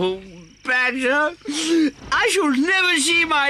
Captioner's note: sobs